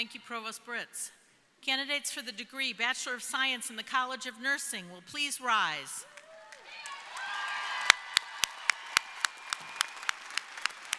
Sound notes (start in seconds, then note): 6.1 crowd applauding